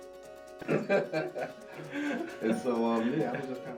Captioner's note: laughter